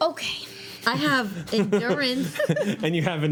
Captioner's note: laughing